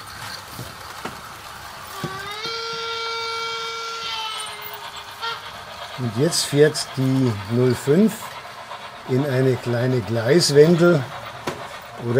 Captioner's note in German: Langer Lokpfiff